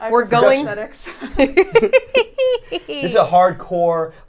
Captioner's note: cackles